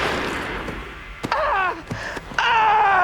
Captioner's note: fires gun; groaning in pain